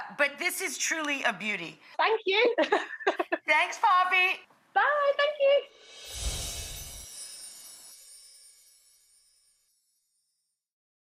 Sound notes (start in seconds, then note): 2.6 laughing; 5.9 chimes tinkling